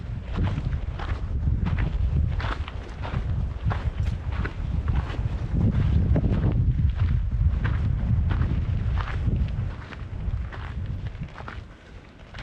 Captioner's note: wind blowing